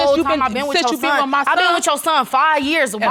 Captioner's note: arguing